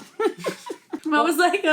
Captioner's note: laughing